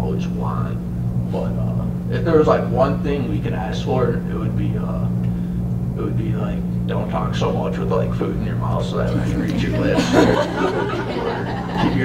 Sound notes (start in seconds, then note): 9.0 laughter